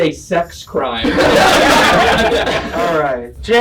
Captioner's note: laughing